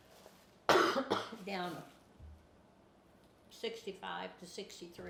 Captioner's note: coughs